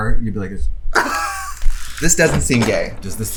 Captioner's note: laughs